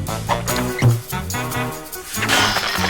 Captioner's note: clanks and crumbles